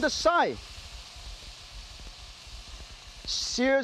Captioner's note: meat sizzles